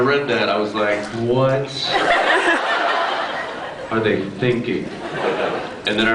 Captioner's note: laughs